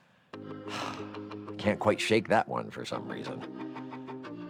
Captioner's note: sighs